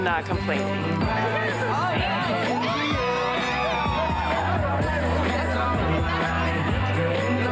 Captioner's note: upbeat music plays; women chattering